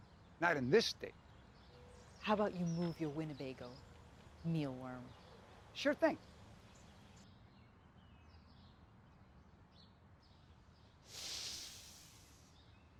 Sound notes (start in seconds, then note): 6.9 birds chirping; 11.0 mealworm inhales